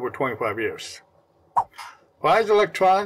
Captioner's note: swipe Sound